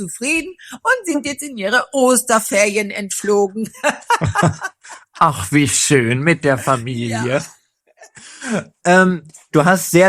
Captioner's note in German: gelächter